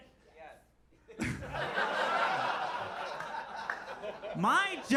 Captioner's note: audience laughs